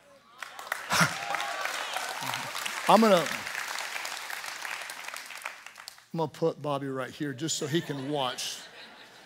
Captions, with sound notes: (congregation cheering and applauding) I'm gonna put Bobby right here just so he can watch.